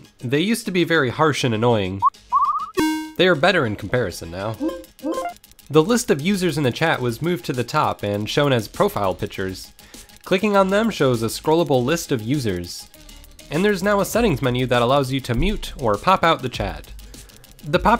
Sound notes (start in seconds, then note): 2.8 BEEP BEeEeEeEP DE-DOOO